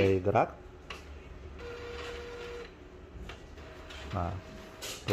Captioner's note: printer machine sound